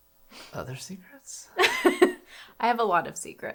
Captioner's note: laughs